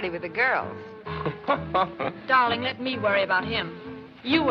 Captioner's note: laughs